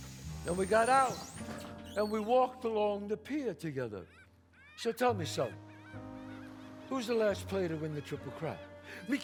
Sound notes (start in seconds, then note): 4.6 seagulls squawk